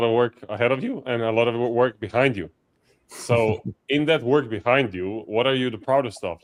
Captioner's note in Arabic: يضحك ساخرًا